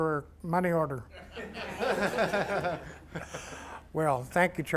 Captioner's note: laughter